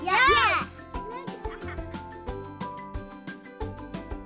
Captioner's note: child laughs